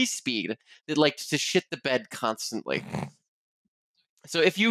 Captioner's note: snorts